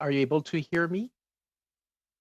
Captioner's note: speaking French